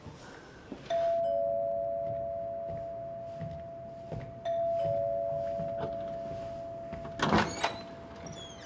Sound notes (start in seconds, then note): 0.7 chiming of doorbell